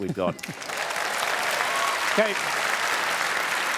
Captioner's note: applause